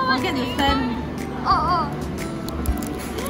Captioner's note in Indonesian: oh, oh!